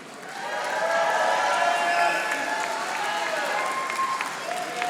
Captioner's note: audience applauding